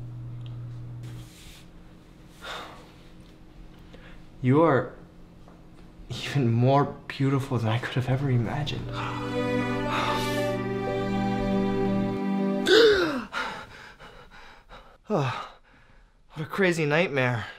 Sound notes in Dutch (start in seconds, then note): 2.4 Nigahiga zucht diep; 8.5 snakt naar adem; 12.6 snakt naar adem; 13.3 hijgt; 14.8 kreunt